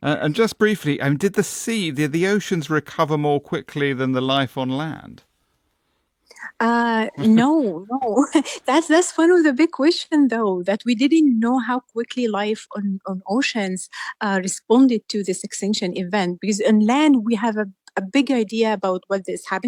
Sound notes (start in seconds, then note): 7.1 laughs